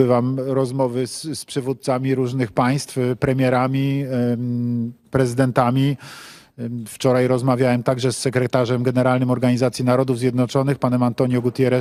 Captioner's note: speaking alternate language